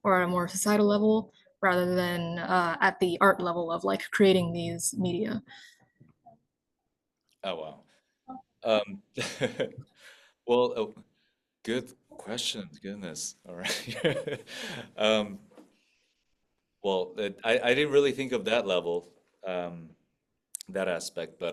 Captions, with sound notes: or a more societal level rather than at the art level of like creating these media? - Oh, wow. (chuckles) Well, good questions. Goodness. All right. Well, I didn't really think of that level, that aspect,